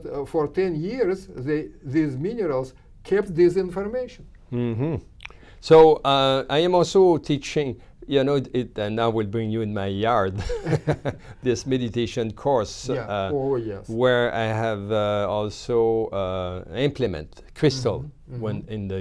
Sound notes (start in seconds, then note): 10.4 laughs